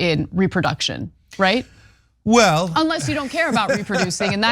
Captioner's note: laugh